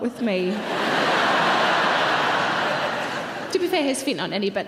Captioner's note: audience laughing